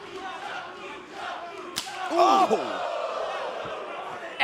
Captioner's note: fans chanting